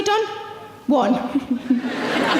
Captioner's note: laughs